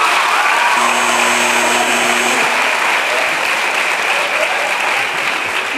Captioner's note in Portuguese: aplausos e campainha